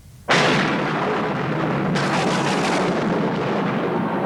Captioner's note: thunderclap